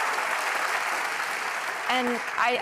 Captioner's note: applause